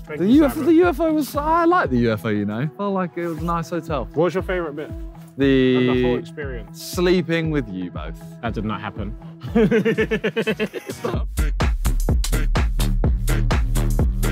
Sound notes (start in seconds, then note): 9.4 laughing; 11.0 upbeat outro music